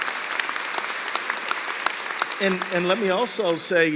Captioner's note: cheers and applause